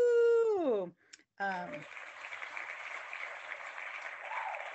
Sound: clapping hands

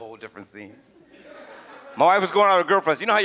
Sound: audience laughs

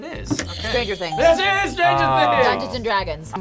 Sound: buzzer rings; bell rings

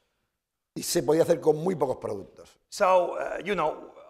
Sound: speaking spanish

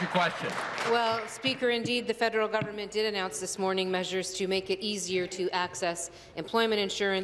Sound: applause

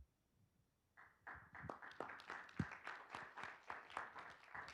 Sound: group clapping

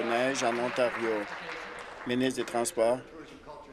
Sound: applause

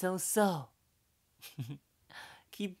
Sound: chuckles

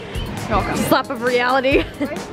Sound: laughs

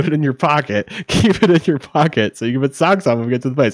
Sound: chuckles

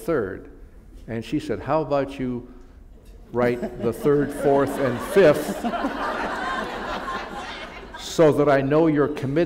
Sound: laughter

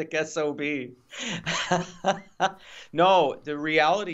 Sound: both laughs loudly

